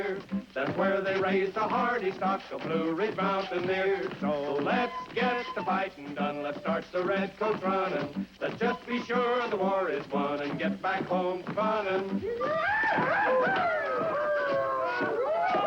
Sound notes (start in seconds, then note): 12.2 whooping